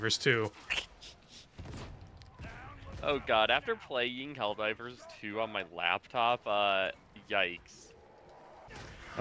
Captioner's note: snicker